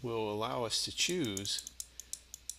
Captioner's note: mouse clicking